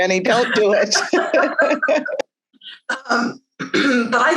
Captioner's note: laughing